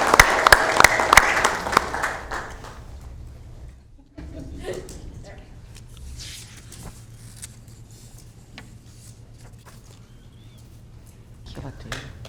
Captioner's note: applauding